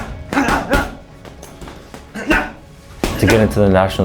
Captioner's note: punching; grunting